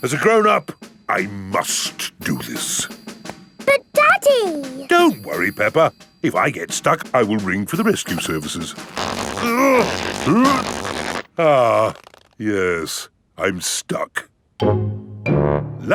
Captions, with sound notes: As a grown-up, I must do this. But, Daddy! Don't worry, Peppa. If I get stuck, I will ring for the rescue services. (GRUNTING) Ah... Yes, I'm stuck.